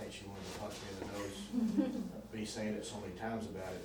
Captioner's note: laughters